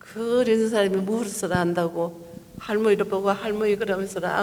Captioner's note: speaking foreign language